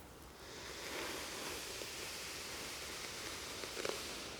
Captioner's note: hair brushing